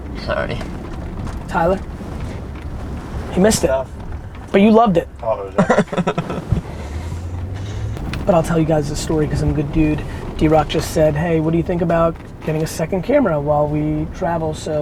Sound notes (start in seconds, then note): 5.5 group laughter